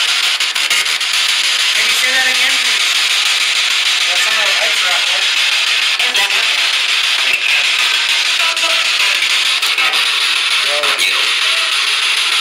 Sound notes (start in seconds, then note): 2.9 loud static; 6.9 loud static